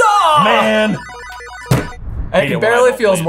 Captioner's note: bell dinging